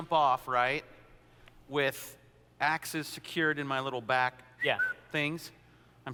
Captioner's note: whistle